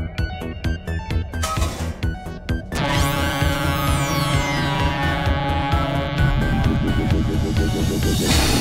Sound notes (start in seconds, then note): 1.3 metal clangs; 1.5 laser zapping; 6.5 vibrations warbling